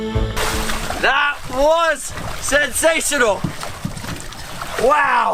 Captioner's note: air bubbles